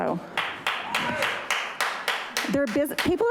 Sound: audience applauding

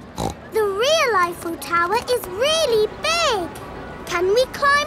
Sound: snorts

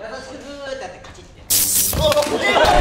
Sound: buzzing sound

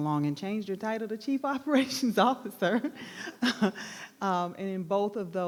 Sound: laughs

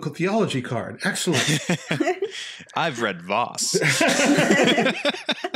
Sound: laughing

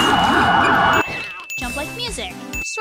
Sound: police siren; cat yowl

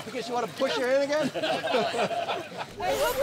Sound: laughter

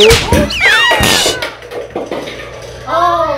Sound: screaming

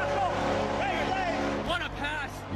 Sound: cheers

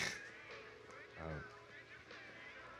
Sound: laughter

